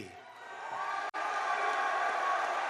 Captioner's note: applause